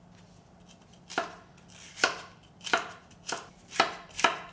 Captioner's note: knife tapping